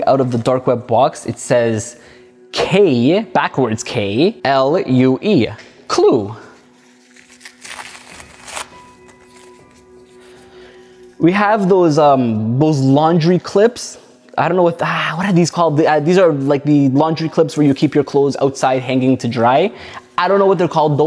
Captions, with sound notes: out of the dark web box, it says K, backwards K, L U E, clue. (paper rustles) We have those laundry clips. I don't know what the, what are these called? These are like the laundry clips where you keep your clothes outside hanging to dry. I don't know what they're called.